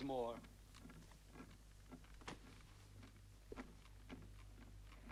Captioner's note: cradle rocking